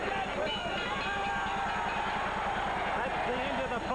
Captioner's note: bell rings